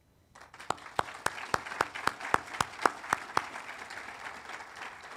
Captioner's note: audience applauding